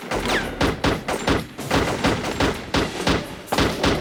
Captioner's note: gunfire